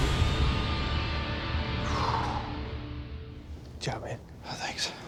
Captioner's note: exhales